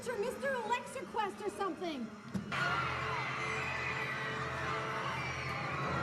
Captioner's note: all screaming